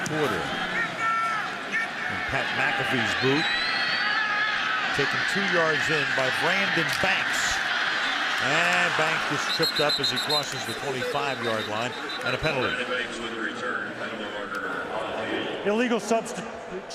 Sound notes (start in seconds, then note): 1.0 pa announcement